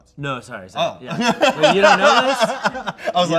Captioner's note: laughs